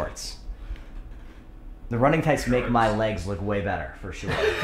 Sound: laughter

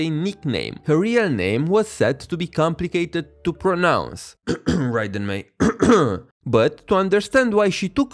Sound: cough cough

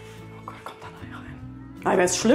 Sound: whispered

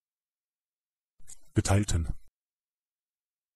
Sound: fast Pronunciation

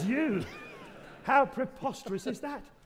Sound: audience laughing

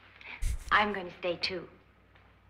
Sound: chuckles

